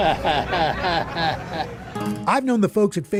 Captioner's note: chuckles